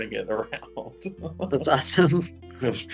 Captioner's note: laughs